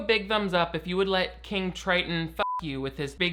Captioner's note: beep